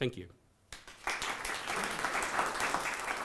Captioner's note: audience applause